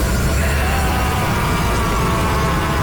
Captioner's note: screaming